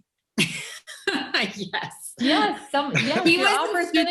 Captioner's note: chuckles